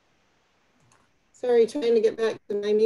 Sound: clicking

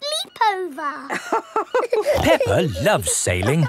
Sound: both laughing

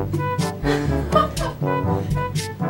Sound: laughter

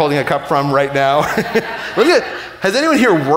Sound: laughing

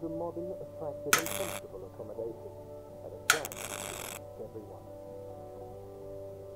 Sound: light clicks and buzzes

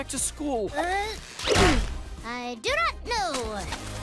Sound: splat

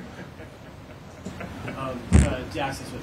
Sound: laughter

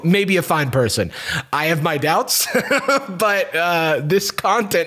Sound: laughs

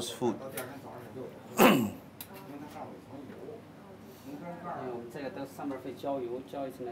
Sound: ambient kitchen noise

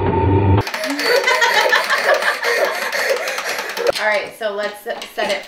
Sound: panicked breathing; laughing

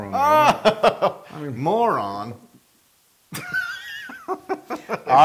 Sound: laugh

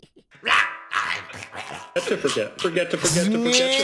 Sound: laughing; demonic voices

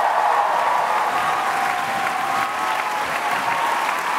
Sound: applause; cheering

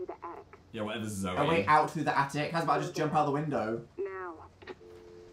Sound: sarcastically

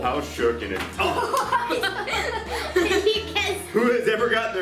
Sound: groaning and laughing

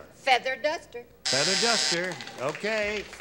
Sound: buzzer

